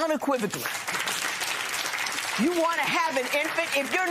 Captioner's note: applause